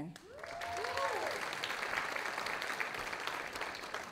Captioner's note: audience applauding